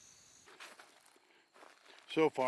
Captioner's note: footsteps pattering